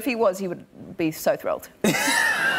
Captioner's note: laughter